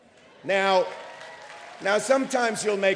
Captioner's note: applause